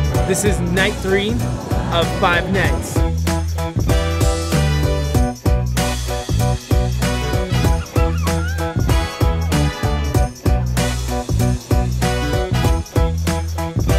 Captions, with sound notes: - This is night three, of five nights. (upbeat music) (child laughing) (upbeat music)